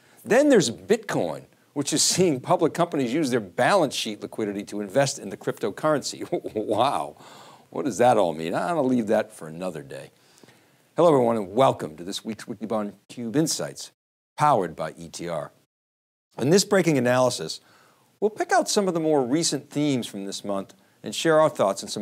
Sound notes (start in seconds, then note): 6.2 chuckles